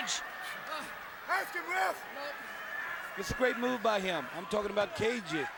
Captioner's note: crowd chatter